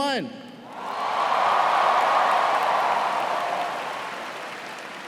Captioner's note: cheers and applause